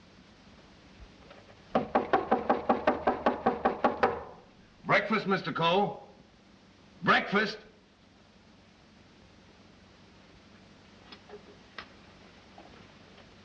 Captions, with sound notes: [knocking louder] Breakfast, Mr. Coe! Breakfast!